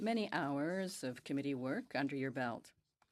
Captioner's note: speaking French